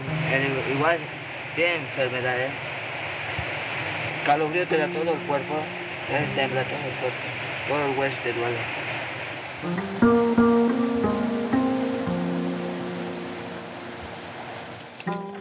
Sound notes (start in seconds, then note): 0.9 teenager speaking in foreign language